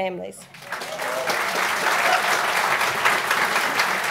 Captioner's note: applause